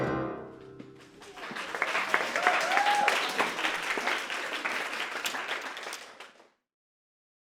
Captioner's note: applause